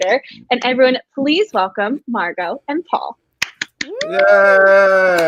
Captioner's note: claps